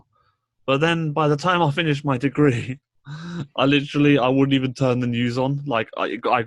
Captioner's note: laughs